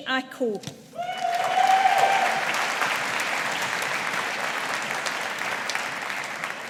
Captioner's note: audience applauding